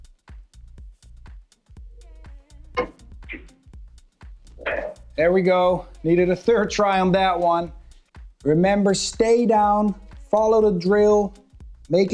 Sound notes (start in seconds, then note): 2.8 billiard balls clanging